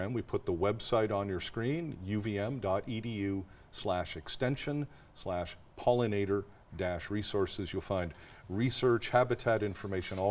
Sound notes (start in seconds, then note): none